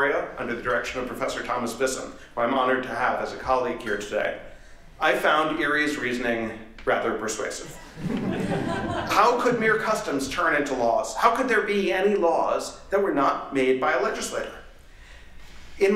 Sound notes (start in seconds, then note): 7.8 laughter